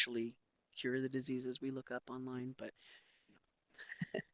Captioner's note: laughs